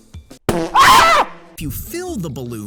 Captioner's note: popping